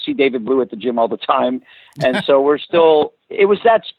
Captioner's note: laughs